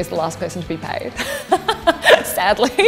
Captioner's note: laughs